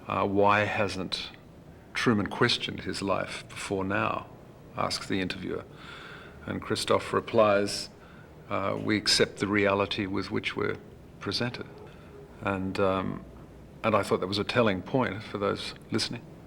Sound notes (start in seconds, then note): none